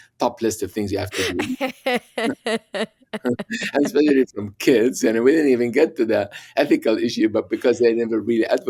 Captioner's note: laughter